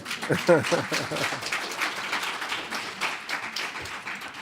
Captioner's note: audience applauding